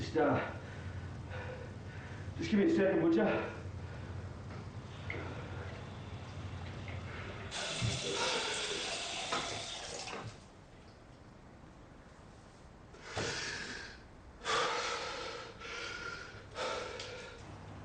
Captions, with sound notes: Just... Just gimme a second, would ya? (water burbles) (Alex exhales loudly)